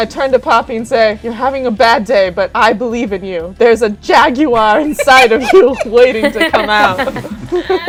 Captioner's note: laughter